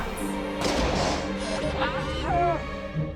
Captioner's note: buzzing